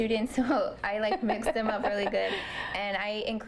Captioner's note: laughter